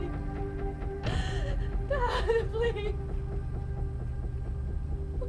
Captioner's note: weeping